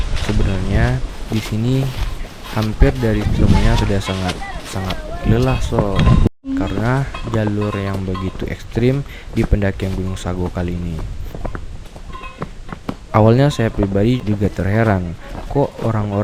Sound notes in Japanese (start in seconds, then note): 4.3 嗚咽